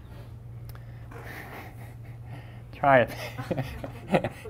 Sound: laughing

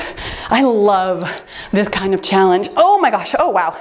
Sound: timer beeps

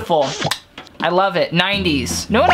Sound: smooches

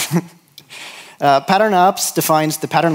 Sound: laughs

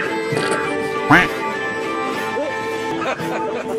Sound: laughs

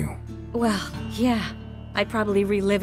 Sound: exasperated

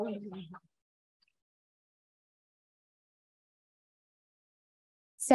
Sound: silence

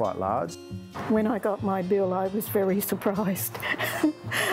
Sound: chuckles

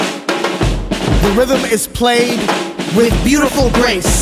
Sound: male Voice

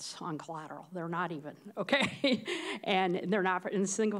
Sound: laughs

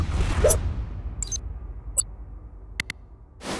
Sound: logo whooshes

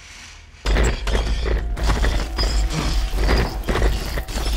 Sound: banging on walls

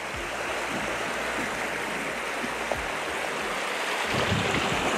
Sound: stream flowing

